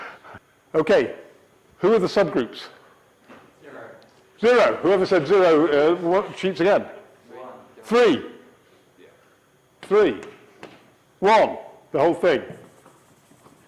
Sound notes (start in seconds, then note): none